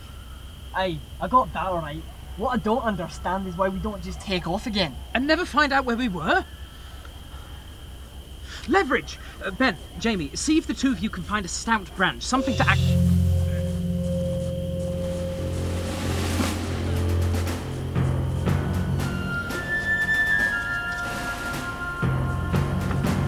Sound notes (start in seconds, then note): 14.0 running Footsteps